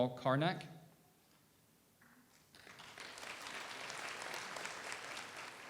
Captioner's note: audience applauds